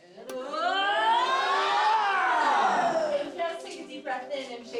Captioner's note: yelling